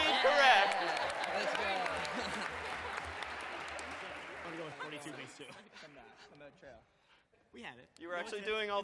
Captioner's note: applause